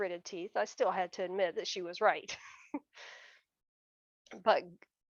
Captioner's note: chuckles